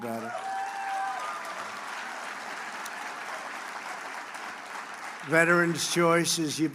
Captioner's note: applause